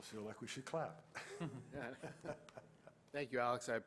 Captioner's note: laughter